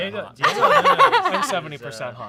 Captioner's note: laughs